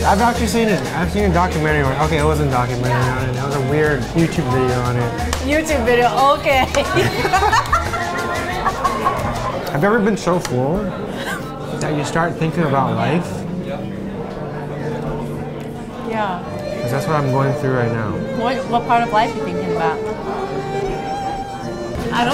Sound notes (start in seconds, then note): 6.6 laughs; 6.8 both laughing; 14.3 melancholic music